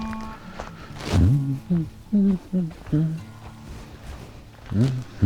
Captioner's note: hums